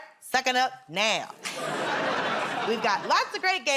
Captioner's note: laughter